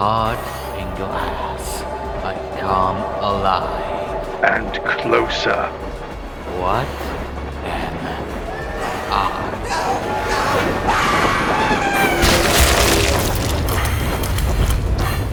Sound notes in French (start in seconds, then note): 2.9 Train rugissant au loin; 10.2 Le train rugit à portée de voix, avec Cross criant pour sa vie; 11.4 crunch !